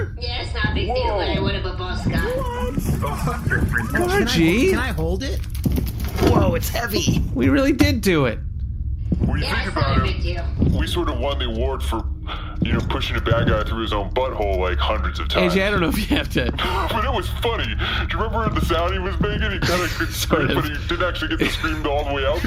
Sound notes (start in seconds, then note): 0.0 excited; 5.5 strained; 19.0 laughing